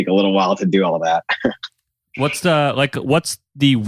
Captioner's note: laughs